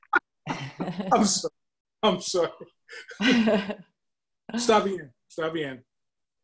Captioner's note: laughs